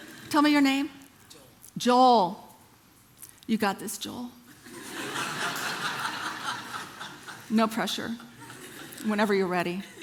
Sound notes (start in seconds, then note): 4.5 congregation laughing